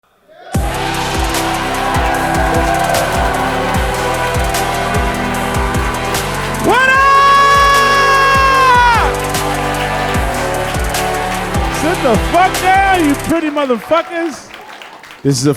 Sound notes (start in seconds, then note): 0.5 hip hop music; 9.8 audience cheering